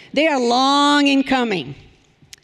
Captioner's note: none